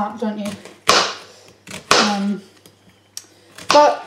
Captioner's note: chopping sounds